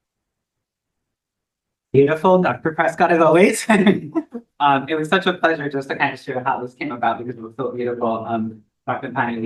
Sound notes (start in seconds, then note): 3.3 laughs